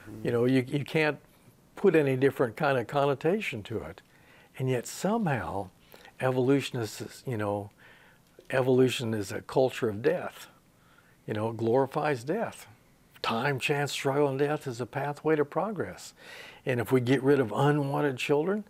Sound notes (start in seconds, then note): none